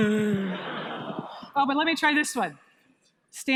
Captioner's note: audience laughs